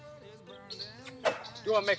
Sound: smack

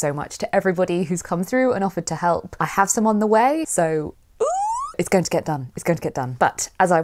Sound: squeal of delight

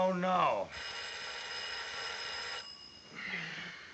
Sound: telephone ringing

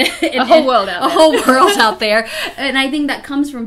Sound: laughs

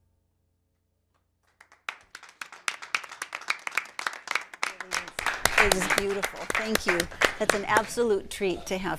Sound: applause

